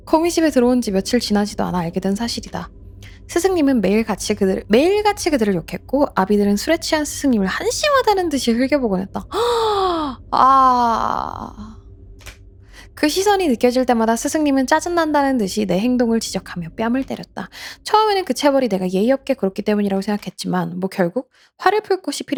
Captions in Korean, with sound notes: 콩이집에 들어온지 며칠 지나지도 않아 알게 된 사실이다. 스승님은 매일 같이 그들 매일같이 그들을 욕했고 아비들은 술에 취한 스승님을 한심하다는 듯이 흘겨보고했다. [헉 소리] 아 그 시선이 느껴질 때마다 스승님은 짜증난다는 듯이 내 행동을 지적하며 뺨을 때렸다. 처음에는 그 채벌이 내가 예의롭게 그렇기 때문이라고 생각했지만 뭐 결국 화를 풀 것이